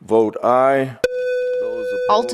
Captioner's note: electronic beeping